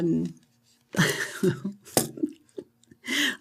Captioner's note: laughs